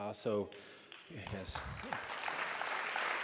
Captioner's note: applause